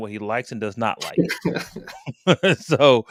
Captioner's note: laughter